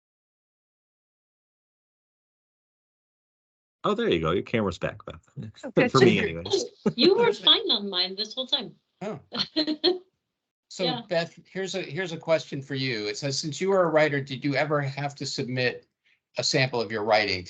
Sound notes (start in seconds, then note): 5.8 laughing